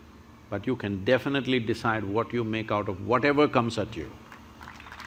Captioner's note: applause